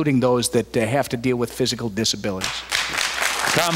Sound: applause

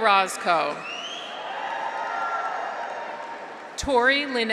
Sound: graduates cheer; audience applauds

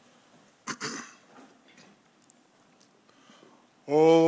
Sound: clears throat

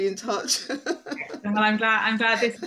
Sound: both laughing

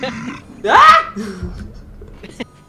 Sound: shrieks

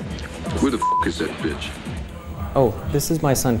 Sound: beeps

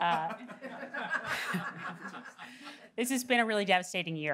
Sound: audience laughing

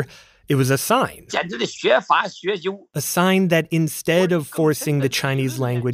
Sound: speaking Mandarin

